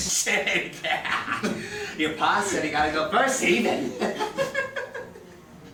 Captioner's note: evil giggling